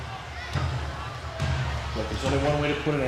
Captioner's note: crowd chatter